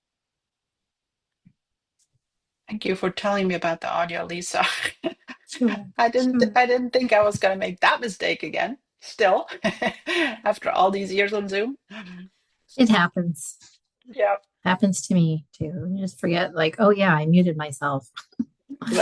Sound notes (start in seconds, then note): 4.7 laughs